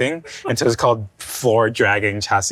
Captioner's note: laughing